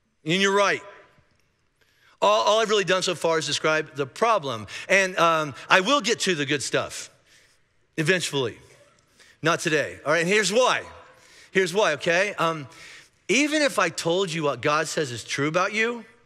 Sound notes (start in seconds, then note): none